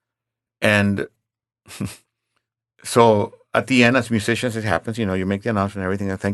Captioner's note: chuckles